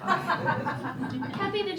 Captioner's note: laughter